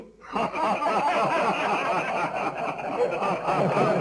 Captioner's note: men laughing